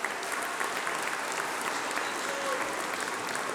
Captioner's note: applause